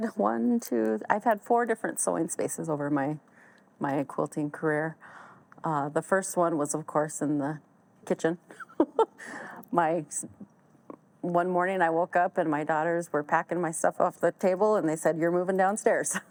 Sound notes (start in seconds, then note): 8.5 laughs